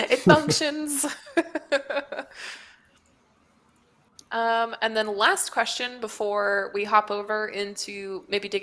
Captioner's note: laughs